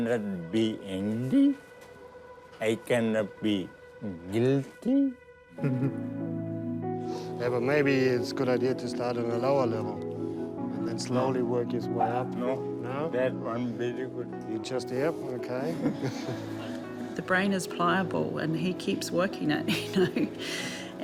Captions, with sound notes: - (CHUCKLES) - Maybe it's a good idea to start at a lower level, and then slowly work the way up. - No. - No? Yeah? OK. (BOTH CHUCKLE) - The brain is pliable, and he keeps working it, you know?